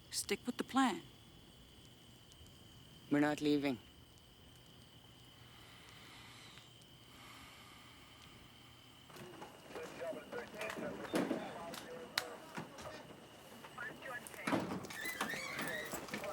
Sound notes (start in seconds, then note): 6.8 exhales; 9.1 police radio chattering